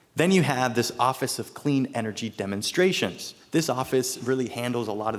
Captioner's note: none